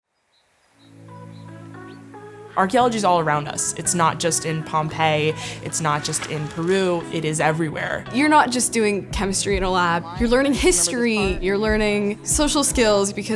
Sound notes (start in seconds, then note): 0.6 light upbeat music; 0.7 birds chirping